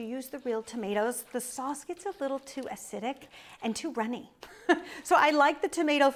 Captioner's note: chuckles